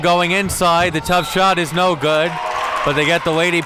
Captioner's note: whistle blows